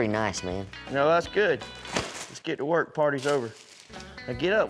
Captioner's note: pop